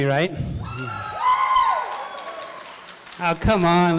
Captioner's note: crowd cheering